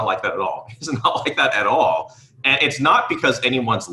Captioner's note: giggling